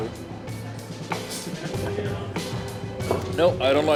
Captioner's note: laughter